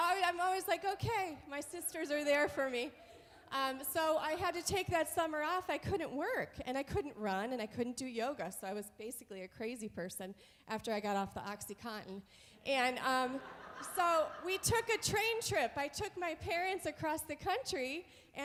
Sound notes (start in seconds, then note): 13.1 audience laughs